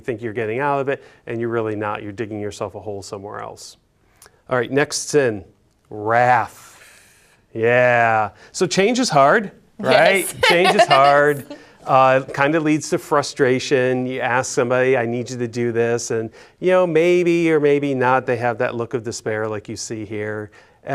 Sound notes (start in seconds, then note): 9.9 laughs